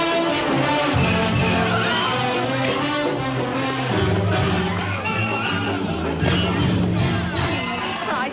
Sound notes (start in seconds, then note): 4.6 whistle blowing